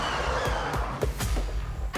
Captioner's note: tires squeal